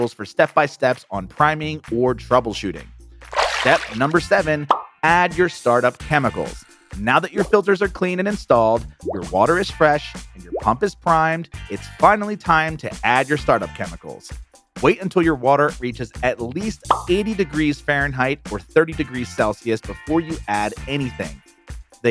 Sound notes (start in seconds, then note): 3.3 water splashes